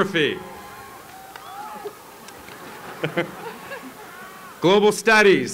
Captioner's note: applause